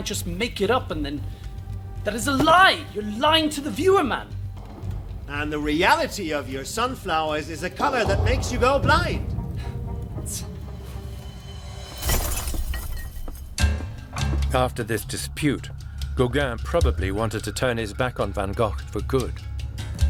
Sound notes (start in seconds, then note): 3.4 shouting; 11.9 glass smashing